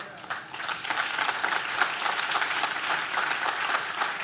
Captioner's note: audience claps